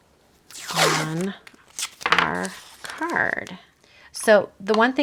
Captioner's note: tape ripping